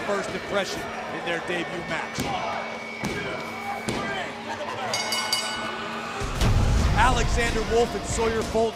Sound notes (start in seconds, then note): 4.9 bell ringing